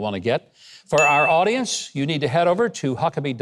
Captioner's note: bell dinging